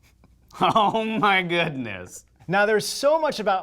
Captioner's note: laughs